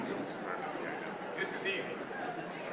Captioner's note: indistinguishable chatter